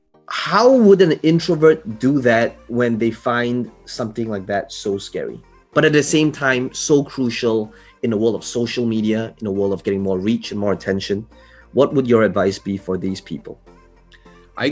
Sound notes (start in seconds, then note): none